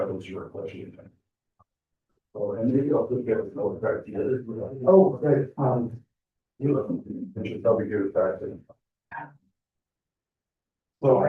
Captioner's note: classroom discussion